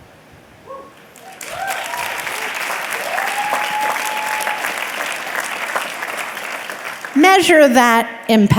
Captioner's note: audience clapping and cheering